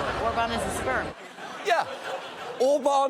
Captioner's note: audience laughing